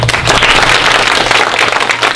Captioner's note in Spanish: Aplausos